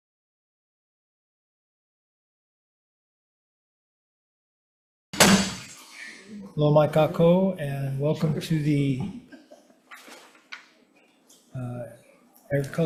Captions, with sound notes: (gavel thuds) Hello, (speaking in foreign language) and welcome to the Agriculture Environment Committee